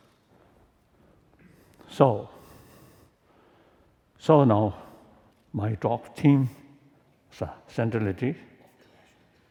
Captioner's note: foreign language